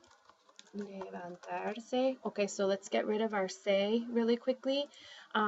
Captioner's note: spanish